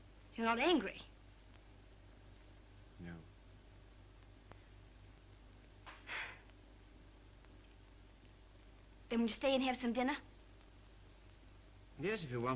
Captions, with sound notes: - You're not angry? - No. (Mildred chuckles) - Then you'll stay and have some dinner?